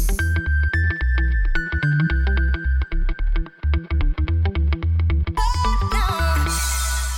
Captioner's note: sparkle sounds and music